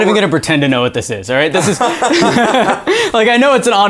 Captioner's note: laughing